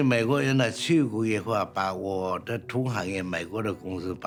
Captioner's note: speaking Chinese